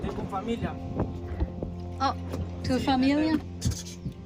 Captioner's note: speaking in foreign language